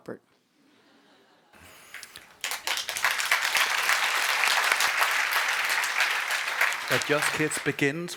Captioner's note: applause